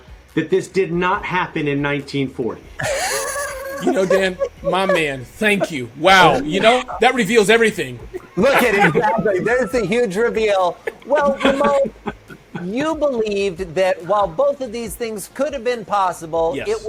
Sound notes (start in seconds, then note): 2.8 laughing